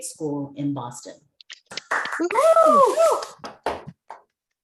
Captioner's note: cheers